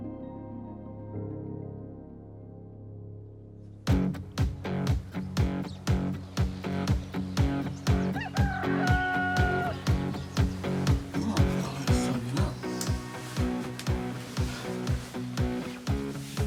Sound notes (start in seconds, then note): 5.7 rock music; 8.2 rooster crows